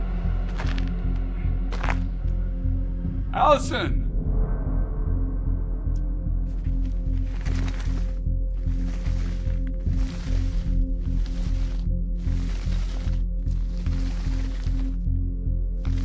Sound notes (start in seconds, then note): 6.6 body scuffling; 6.8 soft tense music continues